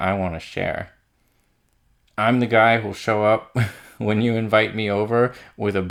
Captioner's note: laughs